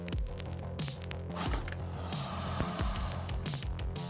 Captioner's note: hisses